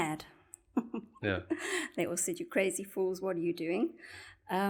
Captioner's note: laugh